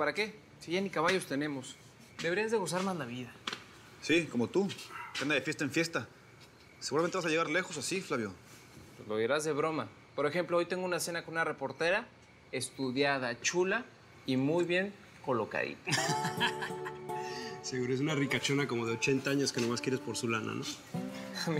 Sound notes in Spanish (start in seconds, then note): 15.8 risas